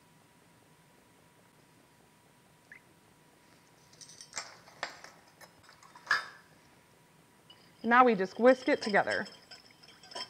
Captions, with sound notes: [Silence] Now we just whisk it together.